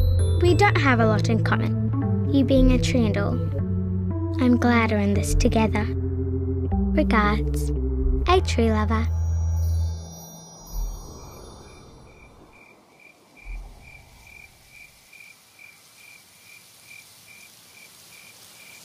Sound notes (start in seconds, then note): 11.7 crickets chirping